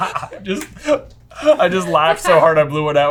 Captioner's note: laughter